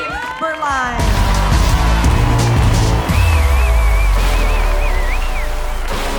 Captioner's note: cheering